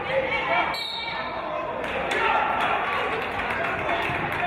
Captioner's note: referee's whistle